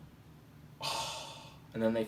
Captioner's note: sighs